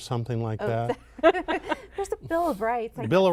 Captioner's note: laughter